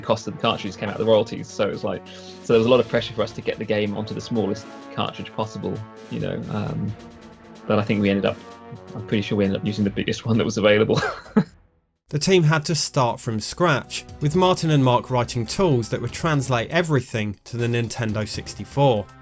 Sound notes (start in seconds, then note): 11.5 laughs